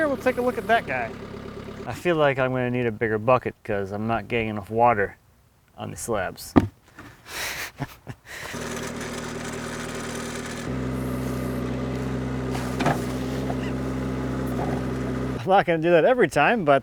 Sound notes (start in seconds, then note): 7.3 laughing; 8.5 machine whirring; 11.6 water splashing; 13.6 laughing